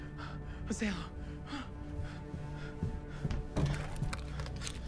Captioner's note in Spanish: Respirando profundamente